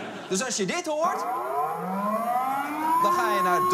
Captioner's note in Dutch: Luchtalarm